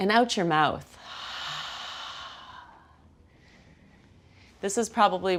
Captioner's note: exhales loudly